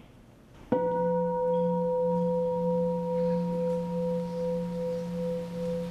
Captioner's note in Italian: suono di campana